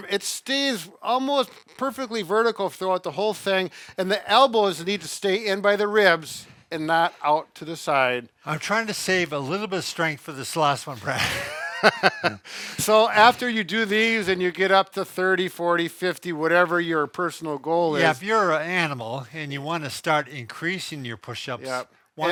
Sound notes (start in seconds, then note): 11.1 chuckles